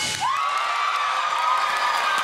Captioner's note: cheers and applause